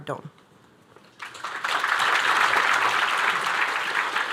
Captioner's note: applause